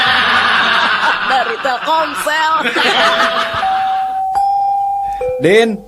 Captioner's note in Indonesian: tertawa